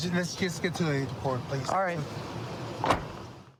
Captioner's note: car door closes